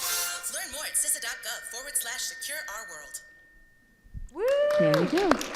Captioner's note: voiceover; audience applauding